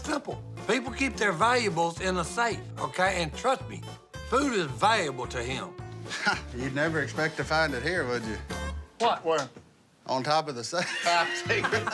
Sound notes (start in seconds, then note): 6.0 laughs; 10.8 laughter